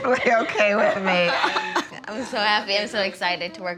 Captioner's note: laughter